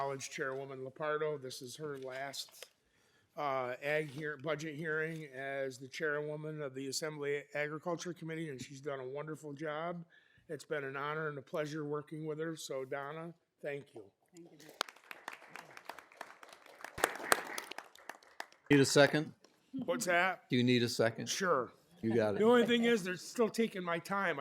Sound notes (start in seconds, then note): 16.8 applause